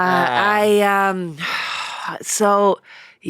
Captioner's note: sighs